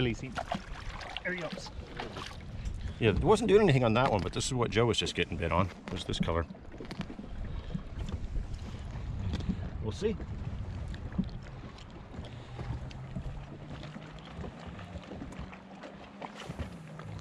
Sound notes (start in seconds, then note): 0.2 fish splashing; 9.9 rod whipping